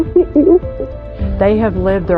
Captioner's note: crying softly